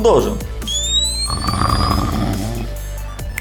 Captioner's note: snore sound